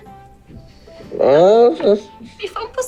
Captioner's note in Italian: mugugna